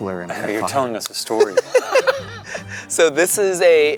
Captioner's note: laughing